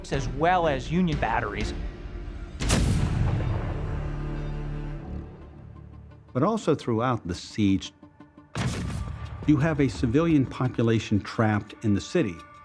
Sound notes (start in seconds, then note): 2.6 cannon firing